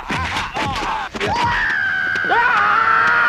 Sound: males screaming; fighting sound effects

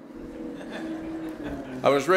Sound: laughter

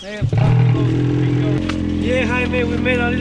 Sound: engine revving

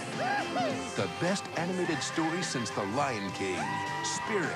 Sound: whinying

